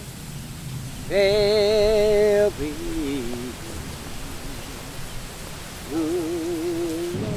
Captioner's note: wind rushing